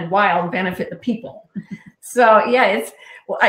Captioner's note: laughing